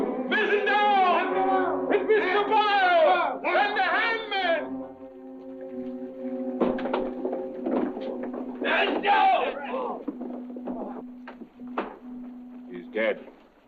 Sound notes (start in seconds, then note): 1.9 sailor yelling